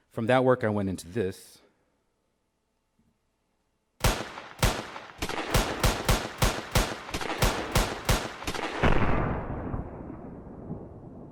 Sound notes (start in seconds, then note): 4.0 shots; 8.7 large blast